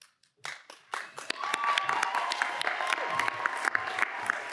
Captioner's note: cheers and applause